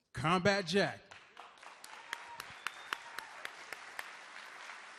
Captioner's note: audience applauds